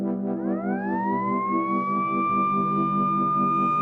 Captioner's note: siring blaring